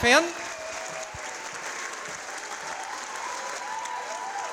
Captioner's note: audience applauding